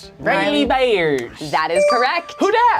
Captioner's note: bell chimes